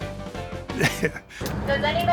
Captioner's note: laughs